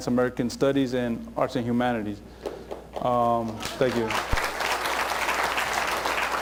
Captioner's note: applause